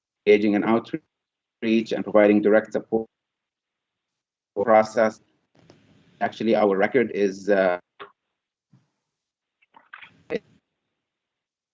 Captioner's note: audio breaks up